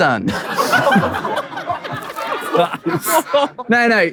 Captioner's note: people in room laughing